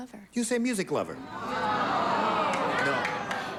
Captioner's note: audience groans